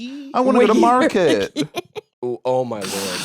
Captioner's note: laughs